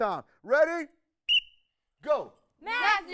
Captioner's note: whistle blows